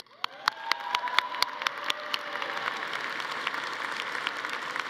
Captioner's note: audience applauding